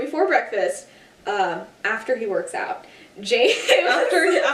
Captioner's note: laughter